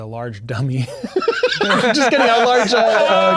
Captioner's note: laughing; players laughing